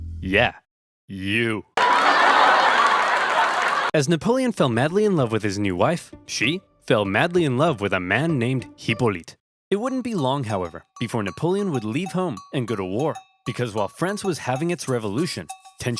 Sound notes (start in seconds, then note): 1.8 crowd laughs